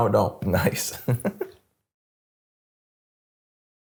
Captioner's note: laughs